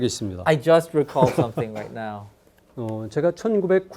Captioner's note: professor laughing; speaking in Korean